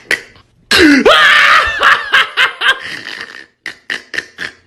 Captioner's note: hysterical laughing; cackling